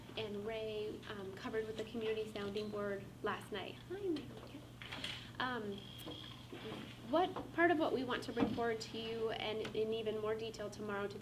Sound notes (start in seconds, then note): 4.0 faintly speaking